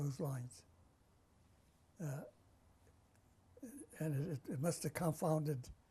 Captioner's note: pauses for 3 seconds